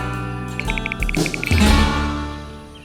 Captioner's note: typing